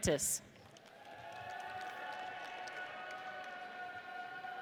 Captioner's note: audience cheers